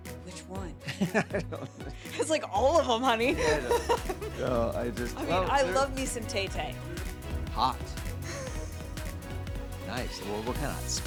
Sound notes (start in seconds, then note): 2.0 laughing; 4.3 laughing